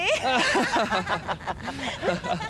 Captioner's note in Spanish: Todos ríen